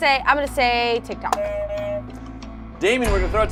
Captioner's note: buzzer rings